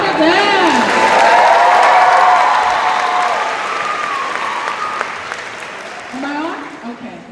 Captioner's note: cheers and applause